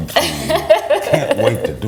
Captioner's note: laughs